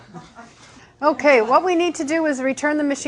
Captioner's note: laughing